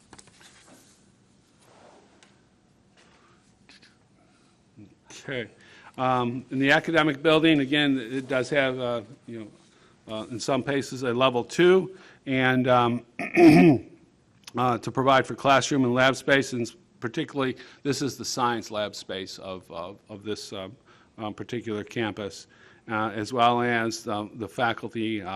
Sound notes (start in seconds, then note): 13.1 clearing throat